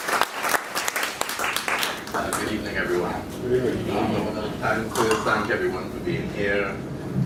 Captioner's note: applause